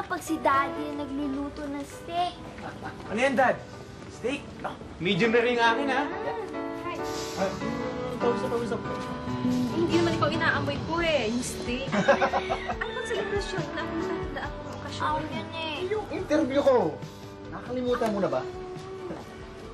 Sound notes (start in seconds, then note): 2.6 Fidel laughs; 11.8 laughs